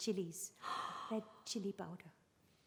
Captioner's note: rehana gasps